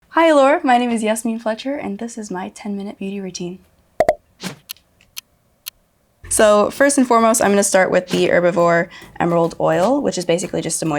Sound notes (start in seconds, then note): 4.3 clock ticks